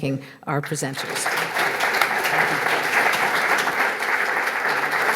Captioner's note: audience applauds